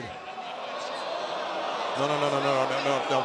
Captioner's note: crowd groans